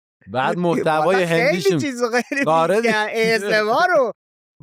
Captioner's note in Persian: خنده